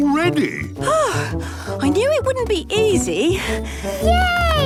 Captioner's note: panting